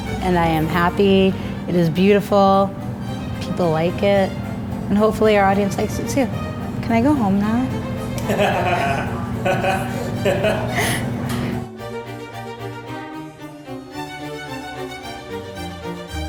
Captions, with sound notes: And I am happy, it is beautiful, people like it, and hopefully our audience likes it too. Can I go home now? (laughing) (classical music)